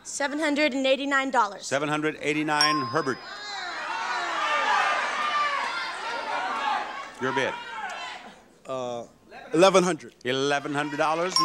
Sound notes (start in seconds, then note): 3.3 audience shouting